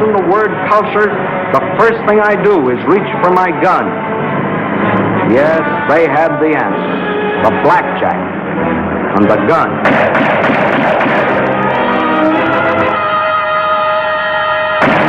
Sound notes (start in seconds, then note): 9.8 gun firing; 11.8 dramatic music; 14.8 gun firing